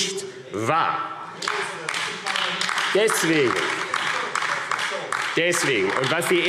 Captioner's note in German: Beifall AfD – Zurufe – Unruhe – Glockenzeichen